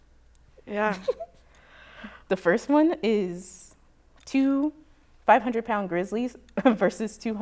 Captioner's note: chuckles